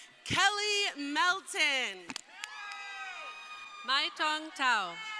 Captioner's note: crowd cheering